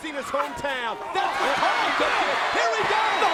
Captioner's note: crowd cheering; Carlito bellowing